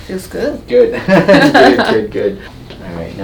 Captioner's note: both laughing